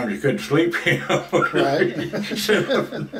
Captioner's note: laughs